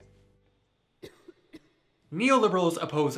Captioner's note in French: toux lointaine